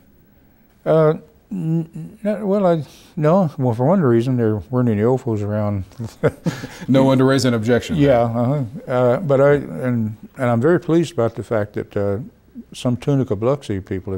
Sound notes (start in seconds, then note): 6.0 both laugh